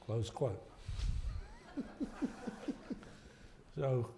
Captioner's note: laughter